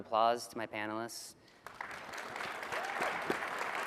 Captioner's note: applause